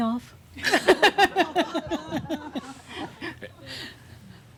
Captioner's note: she chuckles